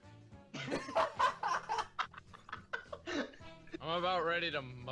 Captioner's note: laughter